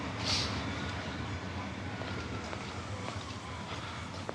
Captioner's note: police sirens blare